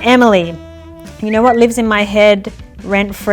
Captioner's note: lips whistle